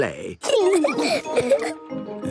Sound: laughing

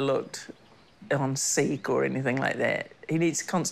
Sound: birdsong

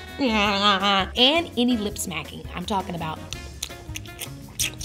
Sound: smacks lips

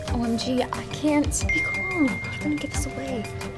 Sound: phone dings

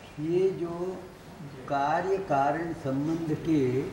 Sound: in Hindi

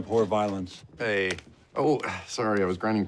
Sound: grunts

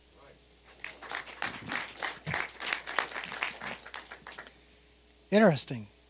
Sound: applause

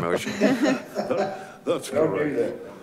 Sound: laughs

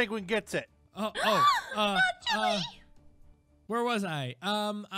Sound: gasps

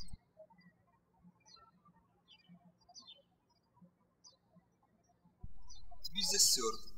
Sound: birds chirping

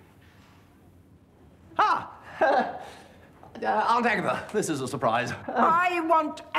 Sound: chuckling nervously

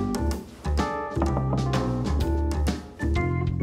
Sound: knocks on door

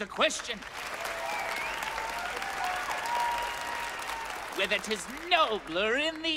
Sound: audience applauds

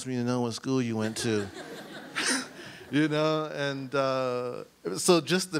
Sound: audience laughs

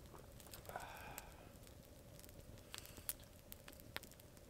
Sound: sighs

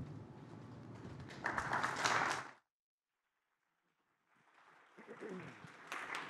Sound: applause

